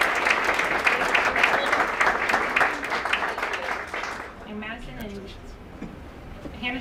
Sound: applause

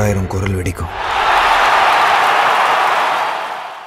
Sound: crowd Cheering

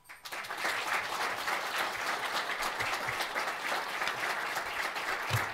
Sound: applauding

